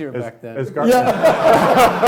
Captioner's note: laughing